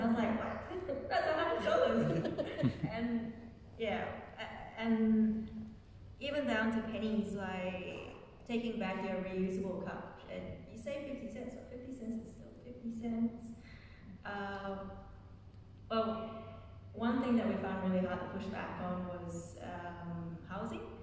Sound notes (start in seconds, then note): 0.8 laughing